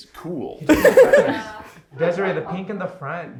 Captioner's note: laughs